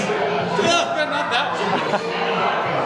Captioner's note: laughter